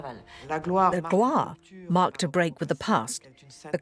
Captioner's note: voiceover